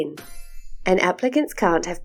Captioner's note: chime sound